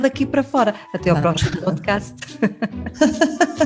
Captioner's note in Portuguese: riem